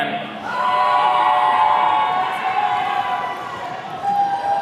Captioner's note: attendees cheering